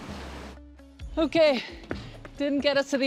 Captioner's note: breathless